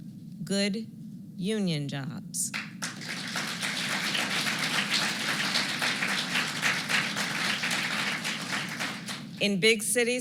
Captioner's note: applause